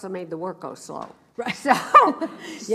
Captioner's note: laughs